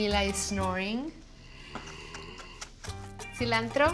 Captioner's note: snoring